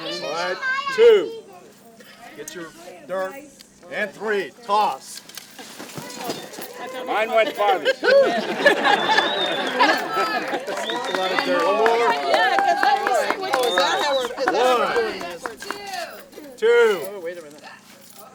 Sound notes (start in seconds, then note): 6.5 laughter and Cheering; 14.5 applause and Cheering